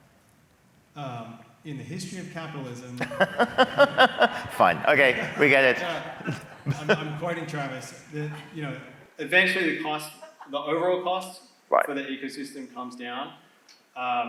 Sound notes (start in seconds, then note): 3.0 laugh